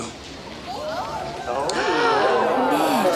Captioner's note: townsfolk gasp; gasps